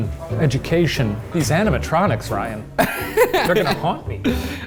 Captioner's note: laughing